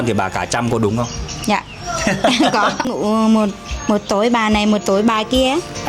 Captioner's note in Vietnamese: tiếng cười